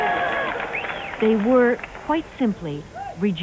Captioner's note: cheering